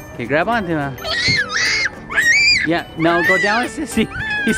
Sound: screaming

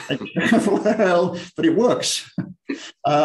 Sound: laughter

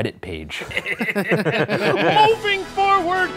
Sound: all laughs

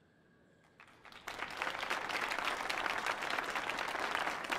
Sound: audience applauding

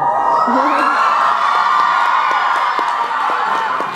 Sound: audience cheers

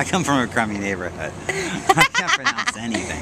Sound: laughter

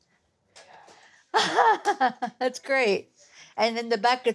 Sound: laughs

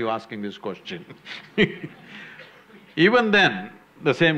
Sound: few laugh; laughs

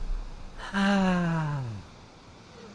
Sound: another sigh

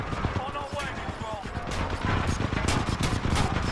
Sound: radio

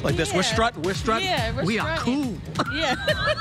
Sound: laughter

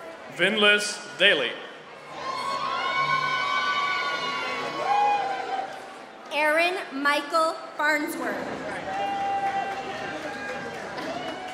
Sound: applause

